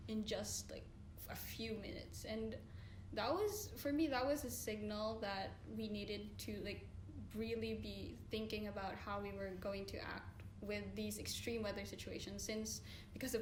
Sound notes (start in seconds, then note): none